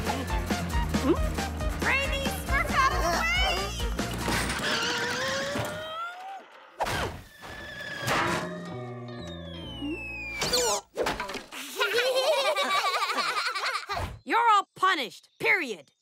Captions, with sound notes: Hmm? Brainy, smurf out of the way! [laughing] You're all punished, period.